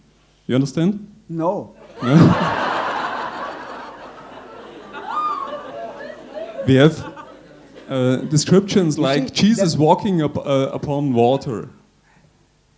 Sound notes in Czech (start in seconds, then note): 1.8 smích